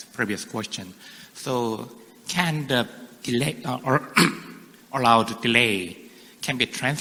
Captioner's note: clears throat